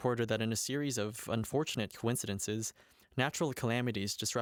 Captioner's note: none